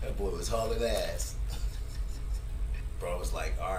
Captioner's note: laughter